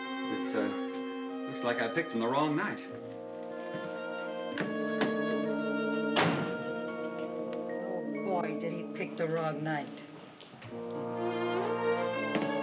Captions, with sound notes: Looks like I picked on the wrong night. ( SLAMS DOOR ) Oh boy, did he pick the wrong night.